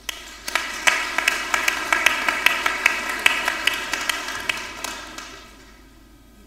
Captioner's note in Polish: oklaski